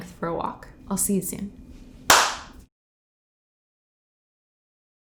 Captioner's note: hands clapping